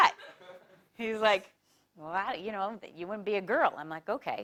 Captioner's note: laugh